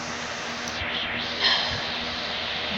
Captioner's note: exhales